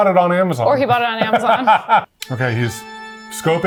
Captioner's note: laughs